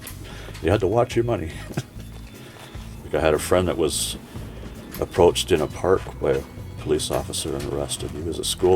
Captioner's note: laughs